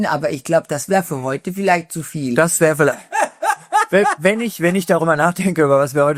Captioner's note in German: gelächter